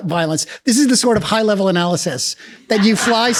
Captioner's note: laughs